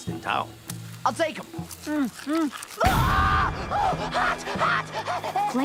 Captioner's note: screams